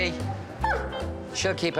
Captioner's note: dog barks